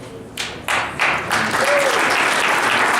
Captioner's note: applause